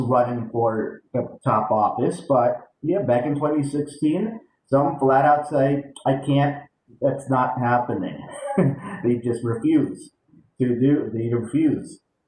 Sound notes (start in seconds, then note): 8.0 chuckles